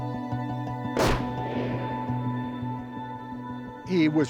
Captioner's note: gunshot